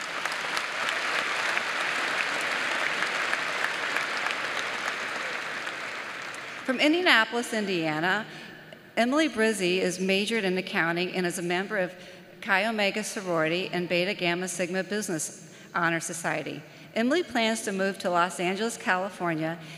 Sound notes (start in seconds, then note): 5.3 applause